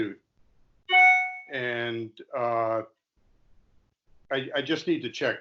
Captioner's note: cell phone dings